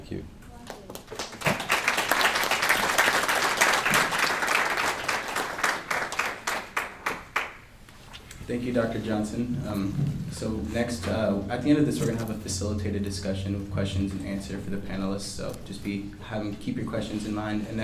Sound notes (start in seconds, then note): 0.6 applause